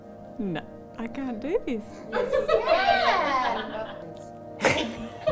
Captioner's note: all laughing